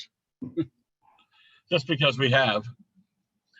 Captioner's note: chuckles